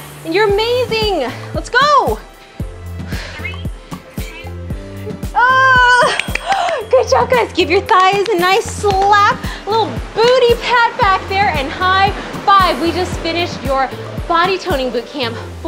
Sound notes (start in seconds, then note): 5.3 yells; 5.9 timer rings; 6.0 claps